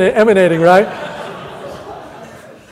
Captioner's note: audience laughter